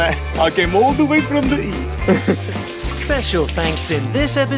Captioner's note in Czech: S ruským přízvukem